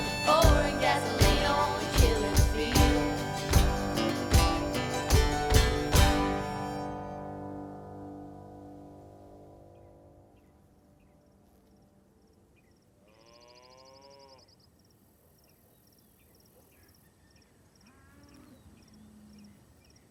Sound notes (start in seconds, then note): 10.2 birds chirping; 13.1 cow lowing